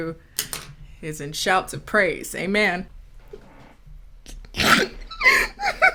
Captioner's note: chuckling